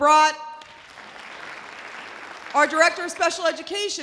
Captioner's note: audience applause